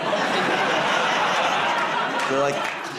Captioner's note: laughter